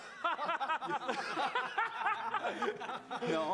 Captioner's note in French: rires